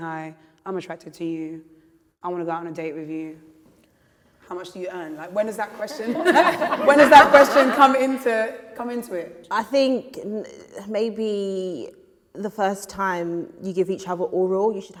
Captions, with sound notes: "Hi, I'm attracted to you. I want to go on a date with you. How much do you earn?" [laughter] When does that question come into it? -I think maybe the first time you give each other oral